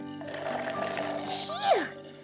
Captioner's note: slurping